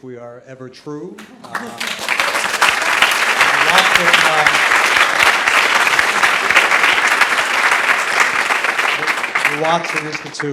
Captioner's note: applause